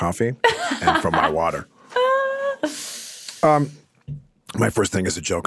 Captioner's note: laughing